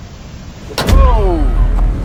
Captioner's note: hood closing